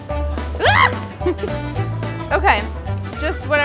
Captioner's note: yelling